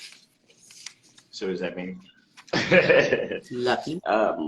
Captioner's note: laughing